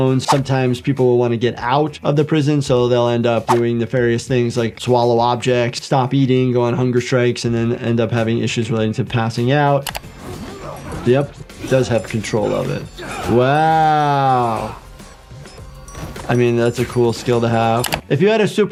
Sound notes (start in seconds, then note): 9.8 screen clicking; 10.1 characters grunting; 13.9 bodies thumping; 17.4 screen clicking